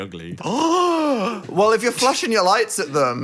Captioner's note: Dan gasps